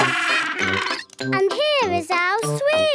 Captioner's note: honking